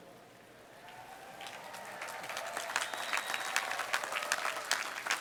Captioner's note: applause